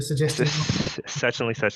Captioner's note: chuckling